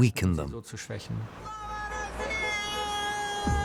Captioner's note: man chanting in Russian